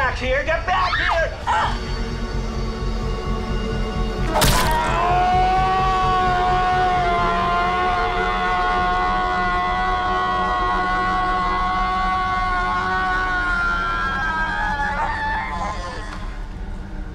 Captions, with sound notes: Get back here! Get back here! (Liz yells) (suspenseful music) (knife squelches) (Dave yells)